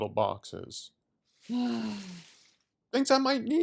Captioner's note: groan